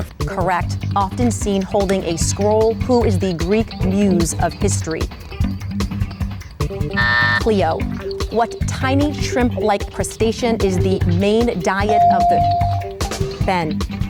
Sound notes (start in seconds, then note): 6.8 timer buzzes; 11.9 bell dings